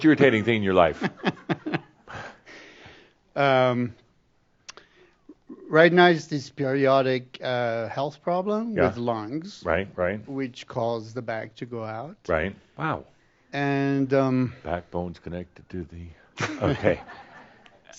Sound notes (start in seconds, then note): 0.9 chuckling; 14.6 singing; 16.4 a few chuckles